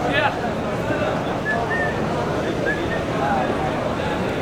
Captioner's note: indistinct chattering